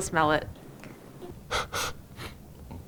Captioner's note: exhales, sniffs